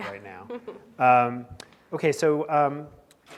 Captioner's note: laughing